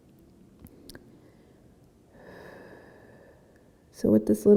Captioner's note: breathing